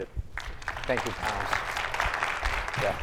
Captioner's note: audience applauding